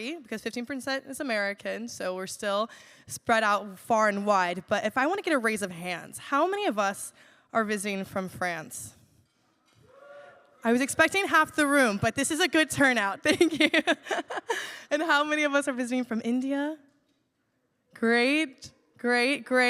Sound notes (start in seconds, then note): 9.9 cheers; 14.5 laughs